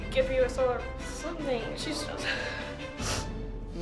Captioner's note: sniffling